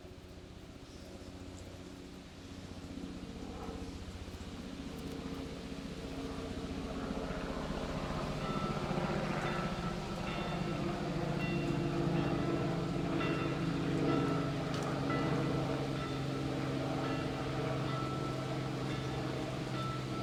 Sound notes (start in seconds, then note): 0.2 helicopter engine; 8.5 bell chiming